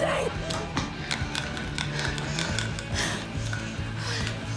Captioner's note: heavy panting